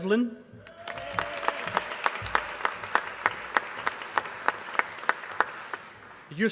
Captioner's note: applause